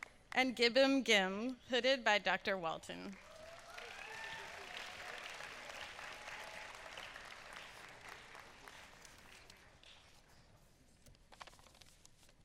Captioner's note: applause